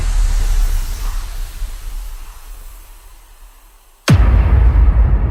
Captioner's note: logo whooshing and thudding